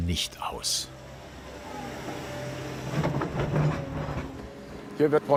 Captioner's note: whirring and rattling